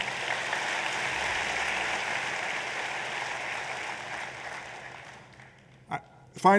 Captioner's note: applause